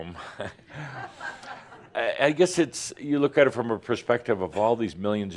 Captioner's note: a few chuckles